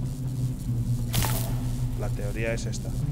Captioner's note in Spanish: none